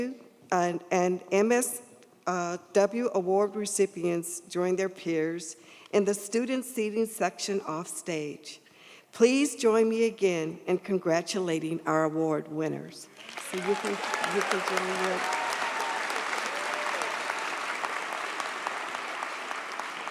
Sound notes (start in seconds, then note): 13.1 audience applauds; 13.2 audience cheers